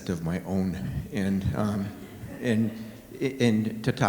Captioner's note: audience laughs